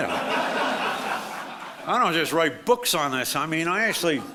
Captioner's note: audience laughs